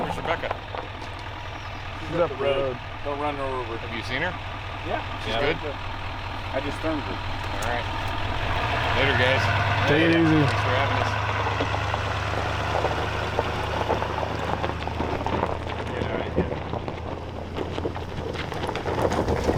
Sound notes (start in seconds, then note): 12.7 engine rumbling; 15.0 gravel crunching